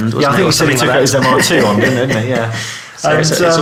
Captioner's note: laughing